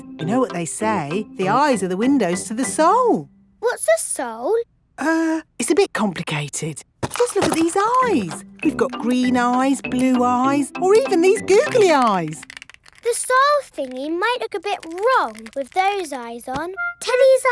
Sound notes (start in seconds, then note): none